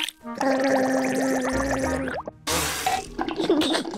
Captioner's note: gargles